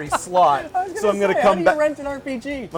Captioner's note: laughter